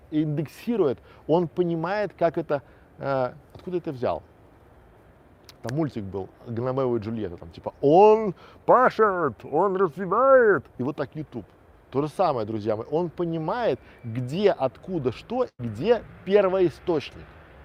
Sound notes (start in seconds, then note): 5.5 щелчок